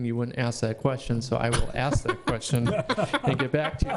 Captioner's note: laughing